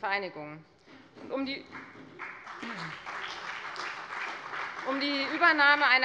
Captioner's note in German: Beifall bei der FDP und der SPD